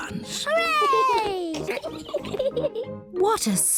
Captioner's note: both giggling